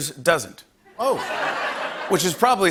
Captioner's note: laughter